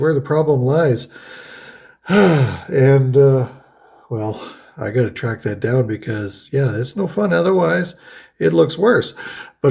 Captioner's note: sighs